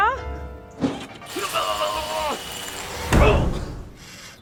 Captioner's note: sound of electric shock